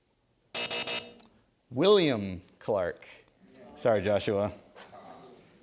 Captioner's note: three buzzes